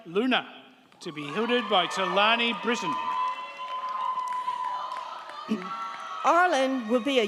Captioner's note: crowd cheering